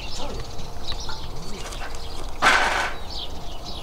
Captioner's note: birds chirping